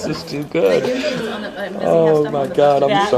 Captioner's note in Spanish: Risas